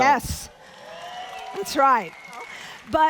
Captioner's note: audience applauding